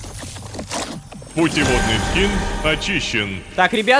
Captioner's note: notification